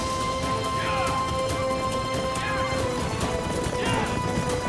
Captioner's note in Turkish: Hep bir ağızdan